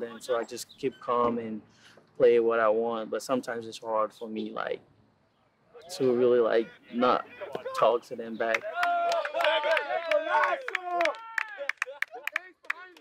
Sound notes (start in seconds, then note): 8.4 hands clapping